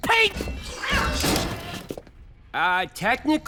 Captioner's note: meow